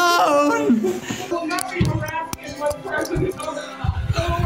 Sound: shouting indistinctly through door

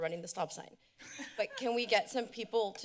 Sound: laughter

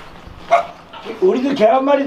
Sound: woof!

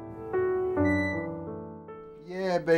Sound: door squeaking

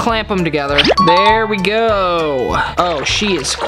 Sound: ding

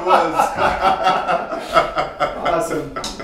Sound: both laughing

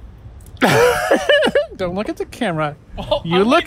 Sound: laughter

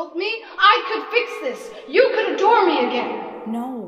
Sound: echoing Voice of a God

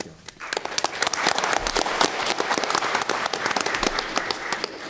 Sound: applause

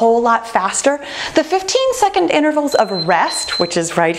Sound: timer beeping

